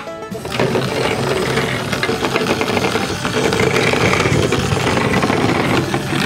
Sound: truck rumbles on the track

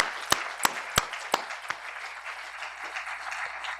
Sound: applause

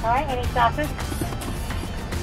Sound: woman In Speakerphone

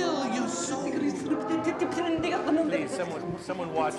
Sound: Abigail chanting in foreign language

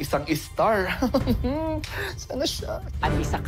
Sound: chuckles

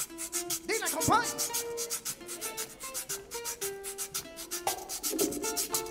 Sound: man speaking in Spanish

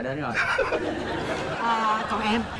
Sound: laughters

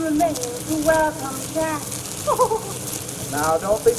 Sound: Bess laughs

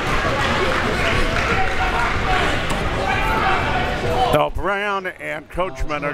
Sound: coach yelling

